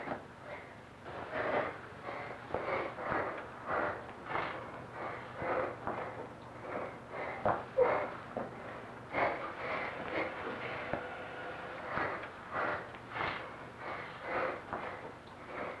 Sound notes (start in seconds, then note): 4.4 breath sounds